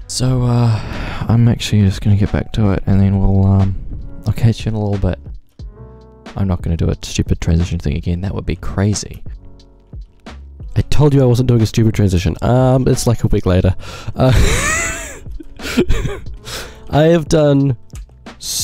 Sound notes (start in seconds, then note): 14.3 laughs